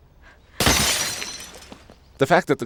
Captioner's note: dropped glass bottle